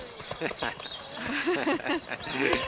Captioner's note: chuckling